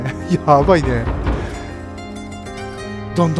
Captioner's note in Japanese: 激しく扉を叩く音